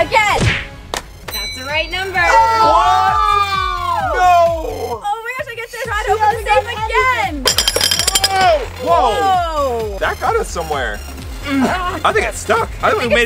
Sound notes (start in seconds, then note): 2.4 screams of disbelief